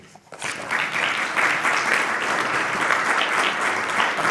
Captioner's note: clapping